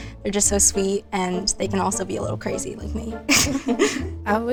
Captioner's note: laughs